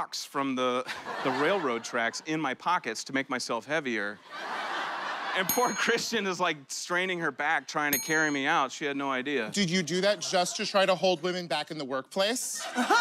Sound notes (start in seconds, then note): 6.7 laughter; 12.5 laughter and applause